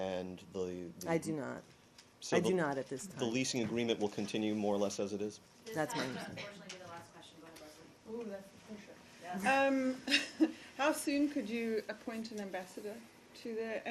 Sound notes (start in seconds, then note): 10.0 laughter